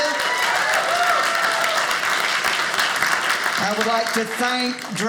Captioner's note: audience applauding